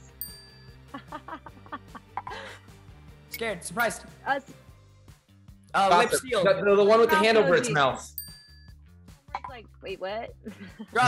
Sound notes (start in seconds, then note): 0.1 bell dings; 1.0 Peyton laughs; 8.1 bell dings